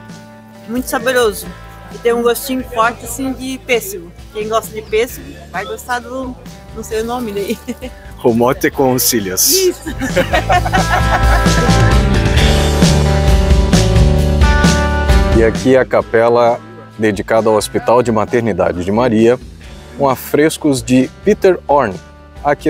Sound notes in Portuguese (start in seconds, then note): 13.2 risos